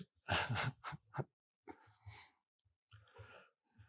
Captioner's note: Eckhart chuckling